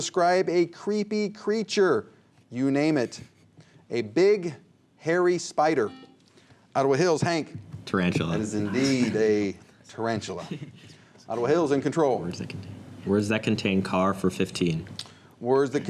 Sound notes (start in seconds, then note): 6.1 buzzer